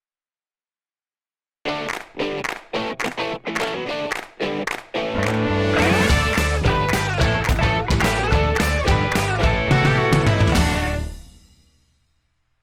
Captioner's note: claps